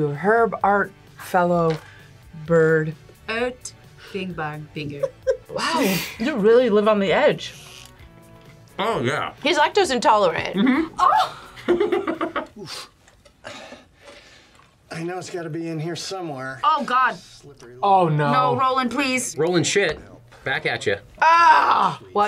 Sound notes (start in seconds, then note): 10.5 laughs